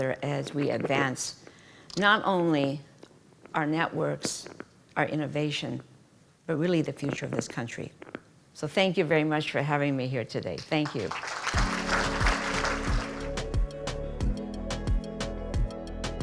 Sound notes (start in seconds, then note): 10.9 audience applauding; 13.4 upbeat music